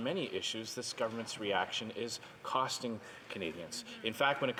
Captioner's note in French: voix de l'interprète